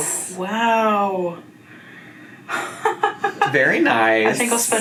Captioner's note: laughs